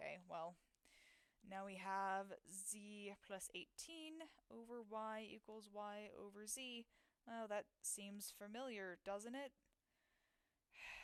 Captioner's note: sigh